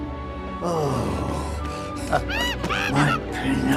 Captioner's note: tender music; Spazzatura hooting